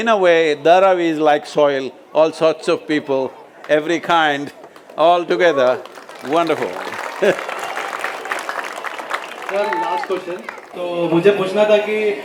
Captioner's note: applause